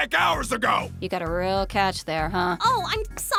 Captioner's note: deadpan